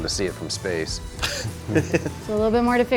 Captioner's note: laughter